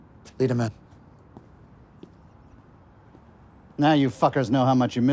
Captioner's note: footsteps tapping